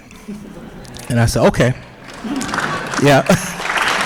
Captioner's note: applause; chuckling